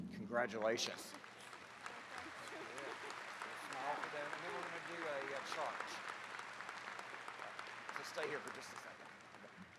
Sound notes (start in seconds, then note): 1.4 attendees clapping; 4.1 faintly speaking